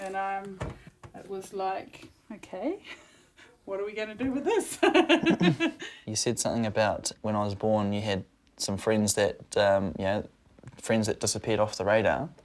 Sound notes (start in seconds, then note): 4.2 she laughs